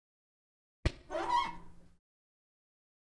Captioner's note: squeaking